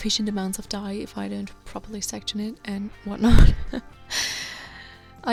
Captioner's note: laughing